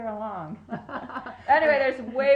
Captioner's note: laughing